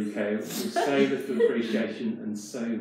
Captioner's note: participants laugh